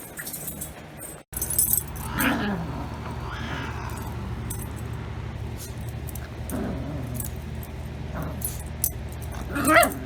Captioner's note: Caprice meows after Ella chews her